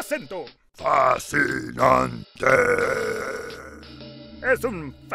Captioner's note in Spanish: con una voz más grave